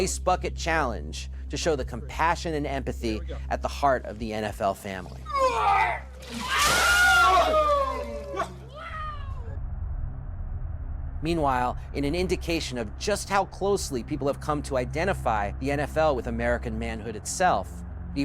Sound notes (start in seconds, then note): 5.2 groan; 6.3 cheering